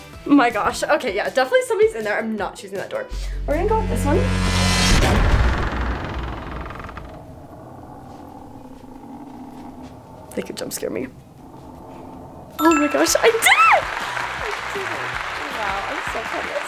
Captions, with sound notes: My gosh, okay yeah definitely somebody's in there I'm not choosing that door, we're gonna go with this one. (door creaking) (suspenseful music) They could jump scare me. Oh my gosh I did it! (bell chiming) (audience applauding) I did it! Oh wow, I'm so proud of myself.